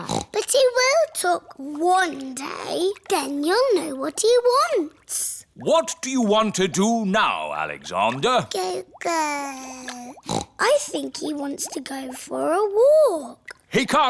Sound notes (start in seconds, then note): 0.0 snorts; 9.1 babbles; 10.1 snorts